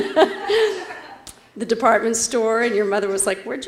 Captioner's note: laugh